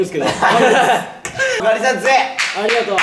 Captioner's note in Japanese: パンパンパン！：拍手